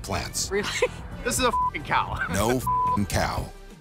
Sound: beeping

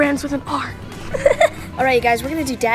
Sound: giggles

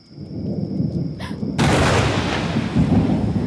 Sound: thunder strikes

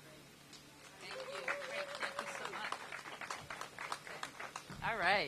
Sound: applause

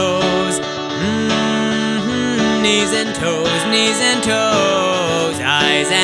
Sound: humming

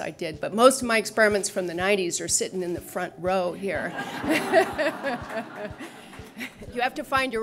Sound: laughter

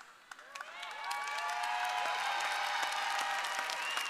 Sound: audience cheering

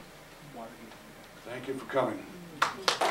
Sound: audience Applauds

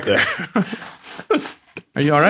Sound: friars laugh

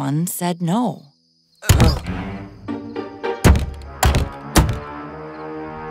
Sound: slam

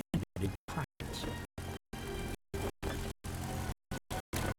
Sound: engine roars

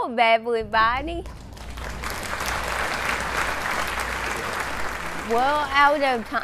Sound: applause

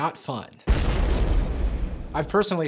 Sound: explosion sound

